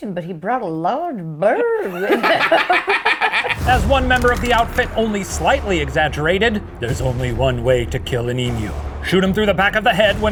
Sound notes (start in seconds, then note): 1.8 laughs